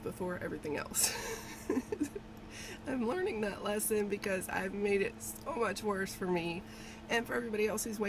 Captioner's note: laughs